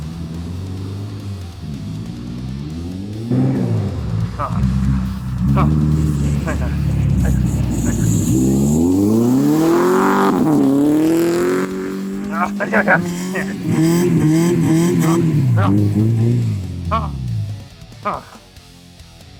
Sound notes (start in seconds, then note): 12.6 grunting; 13.7 screams in pain